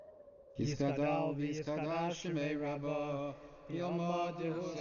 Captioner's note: speaking Hebrew